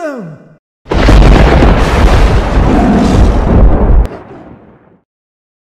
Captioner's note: thunder strikes with tiger roars echoing